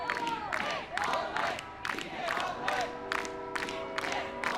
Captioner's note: clapping